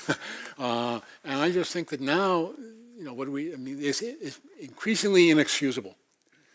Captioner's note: laugh